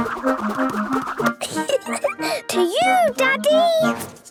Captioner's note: giggling